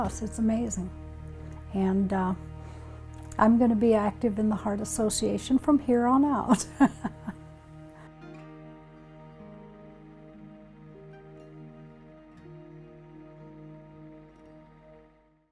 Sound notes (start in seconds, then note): 6.6 chuckles; 8.2 guitar music